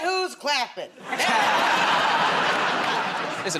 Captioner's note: laughter